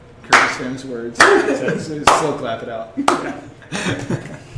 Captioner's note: slow clapping; slow clapping